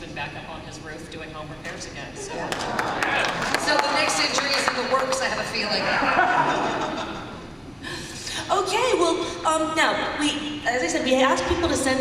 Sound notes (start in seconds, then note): 2.4 applause and cheers; 5.8 laughter